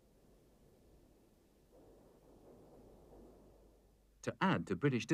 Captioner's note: tanks burning